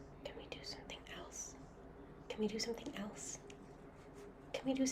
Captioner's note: whispering, then growing louder